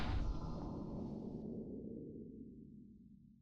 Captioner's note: boom